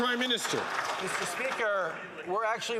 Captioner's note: some Applause